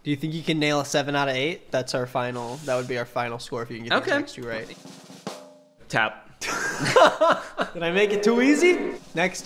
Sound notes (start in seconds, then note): 4.3 soft drum roll; 6.4 both laugh out loud